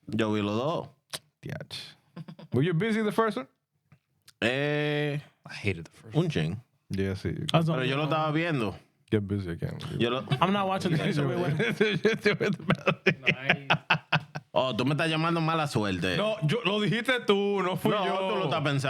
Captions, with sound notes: Were you busy the first one? Eh, I hated the first one. (Speaking In Foreign Language) I'm not watching this. (Laughing) (Speaking In Foreign Language)